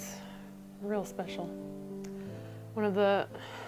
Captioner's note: sighs